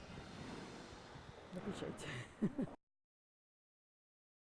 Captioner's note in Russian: смеётся